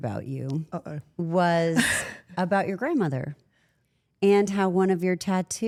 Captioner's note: laughs